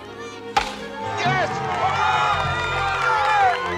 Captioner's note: crack